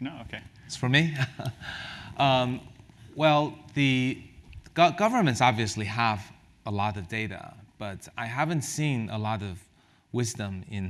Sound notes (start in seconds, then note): 1.1 laugh